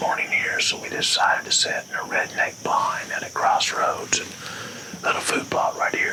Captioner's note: whispering